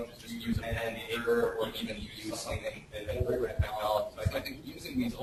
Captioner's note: distorted speech